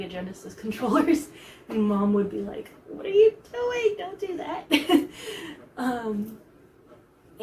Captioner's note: laughs